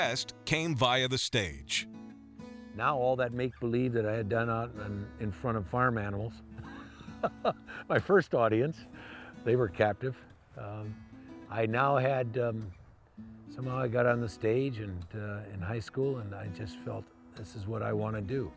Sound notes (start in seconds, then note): 6.6 laugh